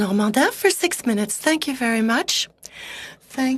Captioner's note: speaking French